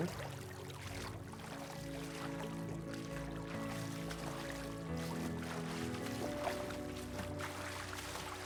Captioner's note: splashes